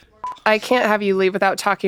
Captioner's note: beeps